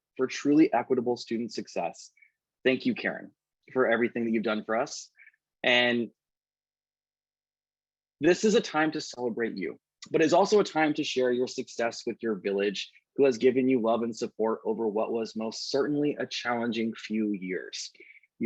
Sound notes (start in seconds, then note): none